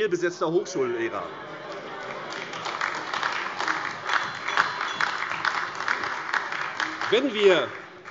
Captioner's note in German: Beifall AfD